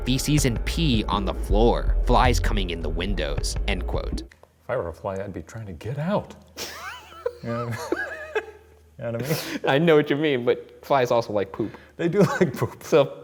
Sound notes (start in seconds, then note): 6.6 laughs; 12.4 laughing